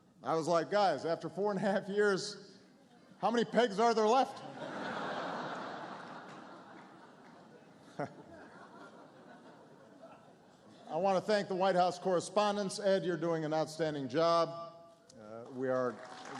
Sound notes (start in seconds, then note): 7.5 laughter; 15.4 applause